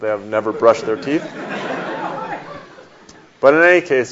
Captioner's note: audience laughs